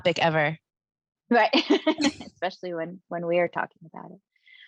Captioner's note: chuckling